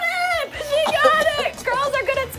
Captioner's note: choking